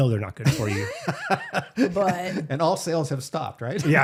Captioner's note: both laughing